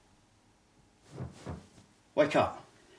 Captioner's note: bedding rustling